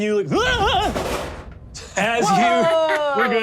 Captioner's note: screams